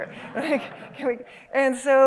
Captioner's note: laughter